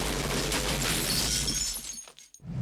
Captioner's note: glass shattering